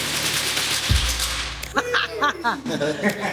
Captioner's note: laughing